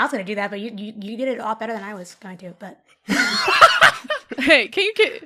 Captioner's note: laughter